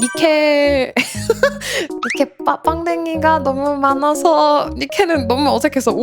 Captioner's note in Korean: 웃음